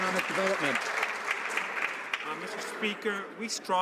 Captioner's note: some Applause